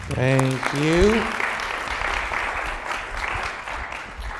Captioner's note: applause